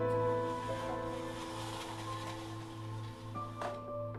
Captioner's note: blinds rustling